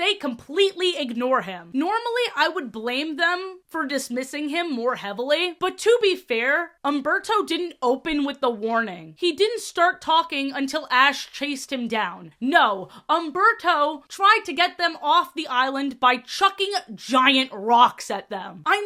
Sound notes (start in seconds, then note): none